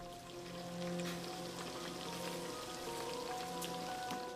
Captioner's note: food sizzling